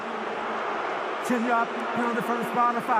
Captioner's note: crowd booing